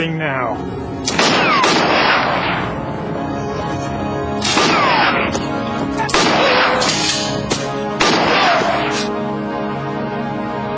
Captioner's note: gunshots